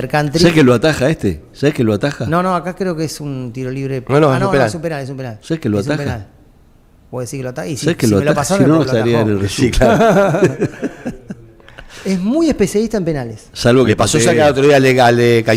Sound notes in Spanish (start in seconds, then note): 9.6 risas